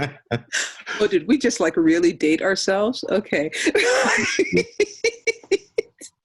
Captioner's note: laughing; laughing